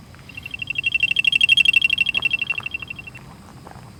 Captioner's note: equipment beeping